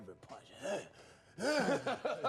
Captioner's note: laughing; mimics grunting